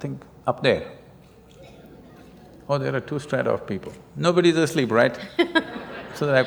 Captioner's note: laughter